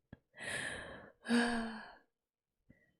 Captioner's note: sighs